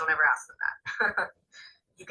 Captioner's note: laughs